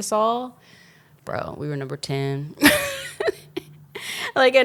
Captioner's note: laughs